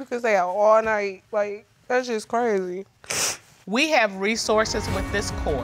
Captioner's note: sniffs